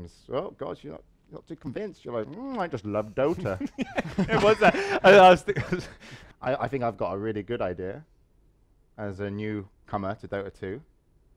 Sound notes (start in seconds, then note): 3.0 laughing